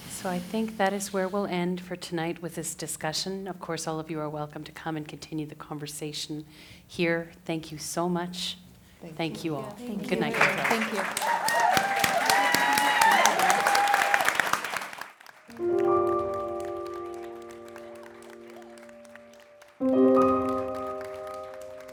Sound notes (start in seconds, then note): 11.0 applause and cheers